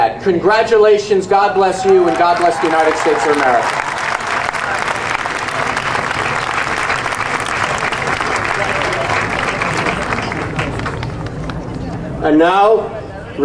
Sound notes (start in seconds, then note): 4.0 audience cheering and applauding